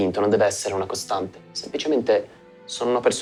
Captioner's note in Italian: none